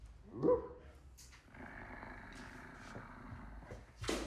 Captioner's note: Bjorn barks; Bjorn growls